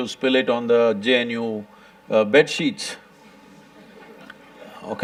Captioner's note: few laugh; laughs